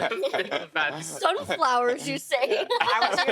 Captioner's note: others laughing; laughing